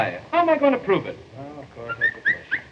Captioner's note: harpo whistles